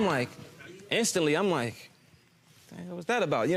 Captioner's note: audience oohing